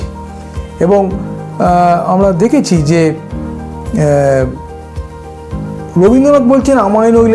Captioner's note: in Bangla